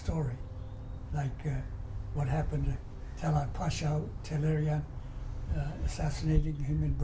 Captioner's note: non-english